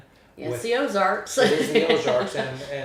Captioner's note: laughs